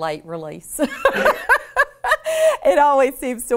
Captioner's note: both laughs